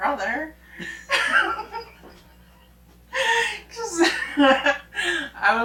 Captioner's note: both laughing